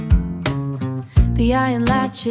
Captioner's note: mmm, mmm